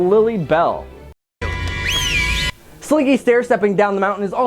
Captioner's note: Mr. Potato Head wistles